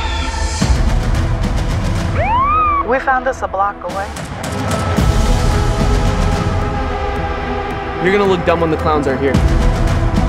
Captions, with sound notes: (police siren) - We found this a block away. - You're going to look dumb when the clowns are here.